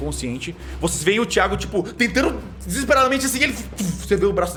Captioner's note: poof